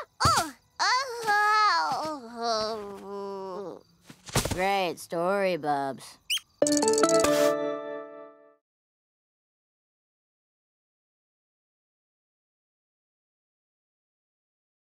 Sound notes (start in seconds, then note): 0.9 moaning; 3.3 light thud; 6.2 cheeps